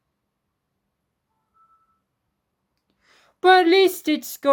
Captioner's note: windows logon sound quietly